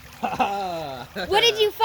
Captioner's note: laughs